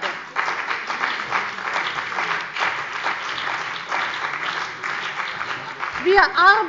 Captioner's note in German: Beifall bei der CDU und dem BÜNDNIS 90/DIE GRÜNEN